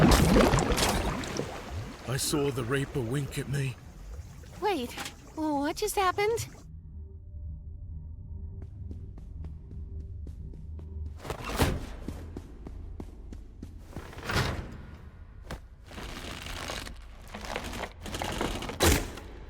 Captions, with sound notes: -I saw the reaper wink at me... -Wait, w-w-what just happened? [lollipop stick creaking]